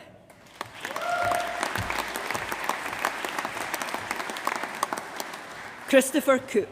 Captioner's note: applause